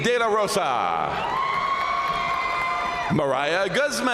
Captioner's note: crowd cheering; crowd applauding